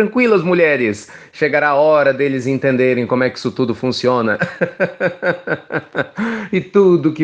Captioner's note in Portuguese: risos